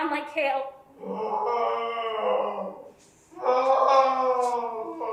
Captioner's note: Oedipus wailing